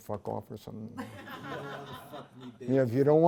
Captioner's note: laughter